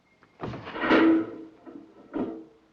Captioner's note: door opens